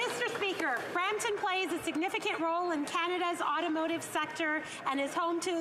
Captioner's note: some Applause